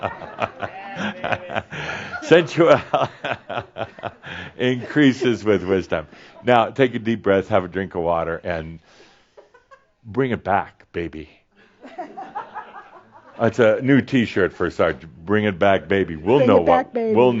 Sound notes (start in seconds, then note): 11.7 more chuckles